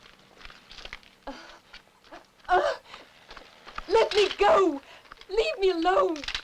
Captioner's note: grunting